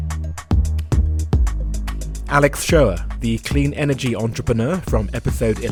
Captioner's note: voiceover